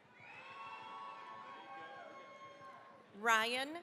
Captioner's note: cheering, applause